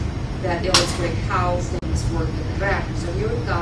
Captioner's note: non-english